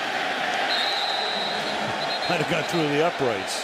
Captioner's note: whistle